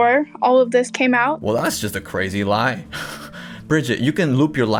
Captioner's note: chuckles